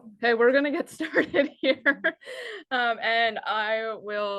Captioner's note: chuckles